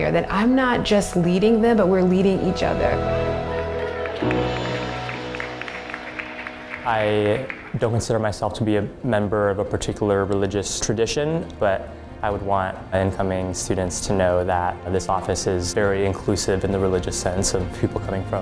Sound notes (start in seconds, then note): 3.5 clapping